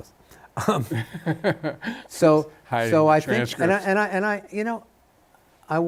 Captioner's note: laughs